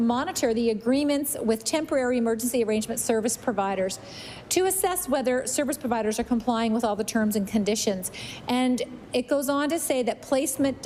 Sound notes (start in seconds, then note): none